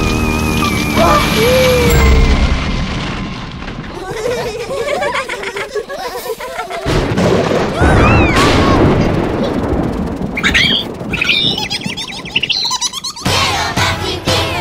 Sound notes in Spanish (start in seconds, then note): 0.0 Música de terror; 1.1 Risas; 6.8 Sonido de pájaro; 6.8 Truenos